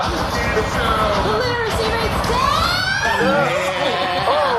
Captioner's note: screaming